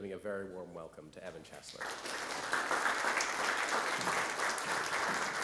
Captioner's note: audience clapping